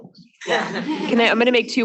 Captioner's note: students laughing